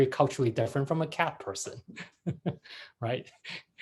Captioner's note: laughs